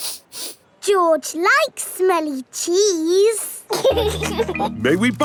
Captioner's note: sniffs; laughing